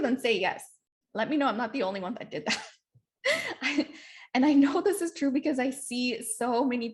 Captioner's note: laughter